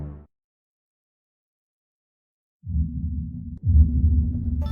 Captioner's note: long silence